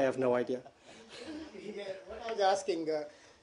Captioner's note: laughter